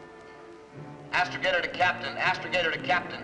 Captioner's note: loudspeaker